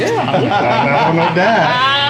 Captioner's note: laughs